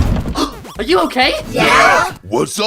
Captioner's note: gasp